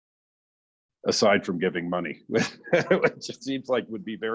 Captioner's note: laughs